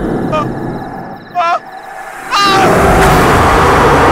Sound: screams

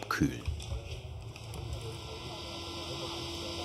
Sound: engine hum, soft conversation

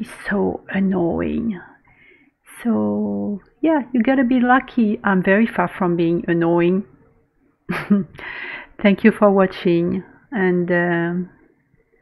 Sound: laughs

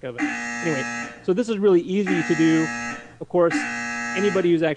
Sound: buzzer sounds as he touches face

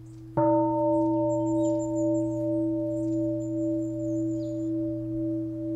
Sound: bell

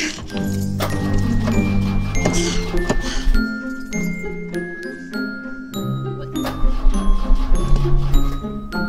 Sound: engine Struggling

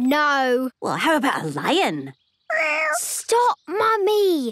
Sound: small meow

